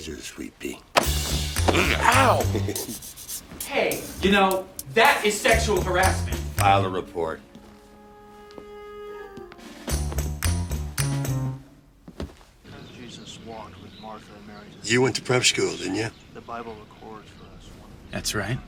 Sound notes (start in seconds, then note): 3.5 chuckles